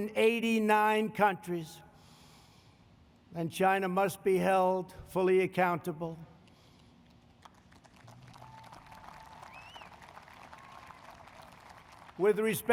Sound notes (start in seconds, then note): 7.0 applause